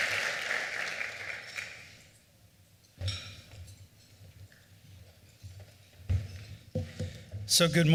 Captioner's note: applause